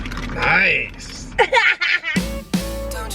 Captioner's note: laughter